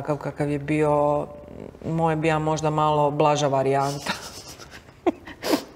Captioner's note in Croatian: smijeh